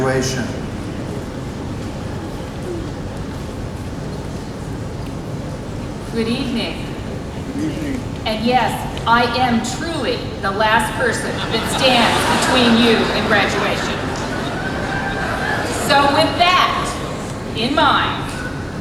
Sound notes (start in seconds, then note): 16.5 laughter